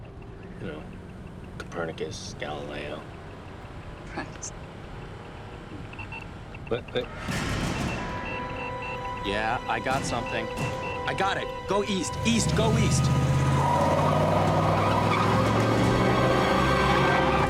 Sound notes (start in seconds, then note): 6.4 device trills; 7.6 beeps; 13.3 tires screech